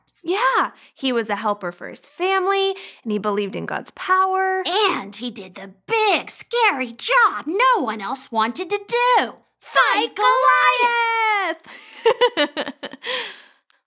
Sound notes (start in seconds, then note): 10.7 laughing